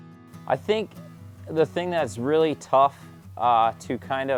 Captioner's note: voiceover